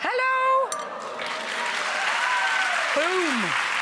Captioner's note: applause